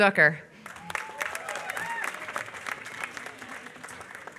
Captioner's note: applause